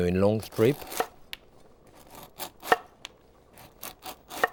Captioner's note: knife slicing